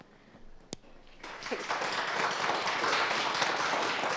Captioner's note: applause